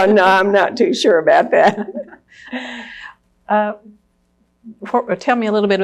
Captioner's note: laughs; laughter